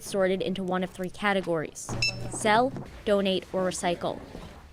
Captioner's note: scanner beeps